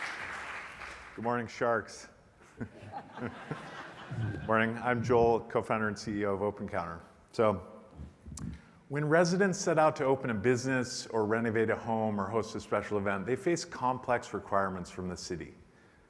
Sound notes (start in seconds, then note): 2.6 audience laughs